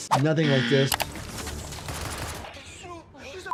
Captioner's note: gun fires